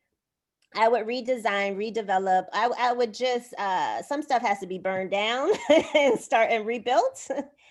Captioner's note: laughter